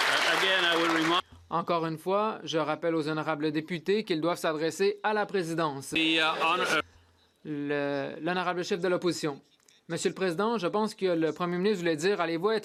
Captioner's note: some Applause